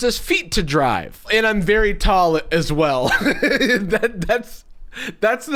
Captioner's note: laughs